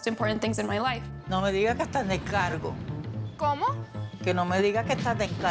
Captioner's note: speaking Spanish